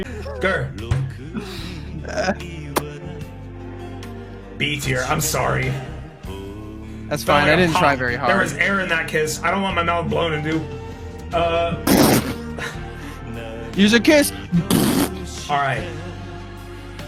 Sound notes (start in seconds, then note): 2.6 sharp kiss noise; 11.6 explosive mouth blowing noise